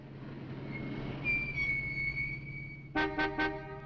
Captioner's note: brakes squeaking; horn honking